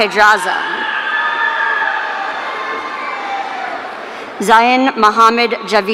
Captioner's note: audience cheering